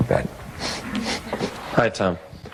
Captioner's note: ˢⁿᶦᶠᶠ ˢⁿᶦᶠᶠ ˢⁿᶦᶠᶠ